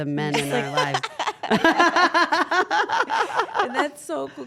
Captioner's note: laugh